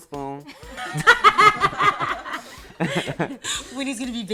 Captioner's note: laughter